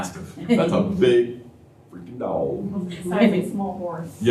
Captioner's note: laughter